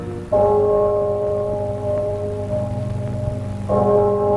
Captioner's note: church bell chiming